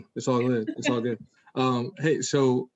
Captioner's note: laughs